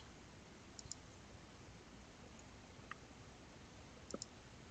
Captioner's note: mouse clicking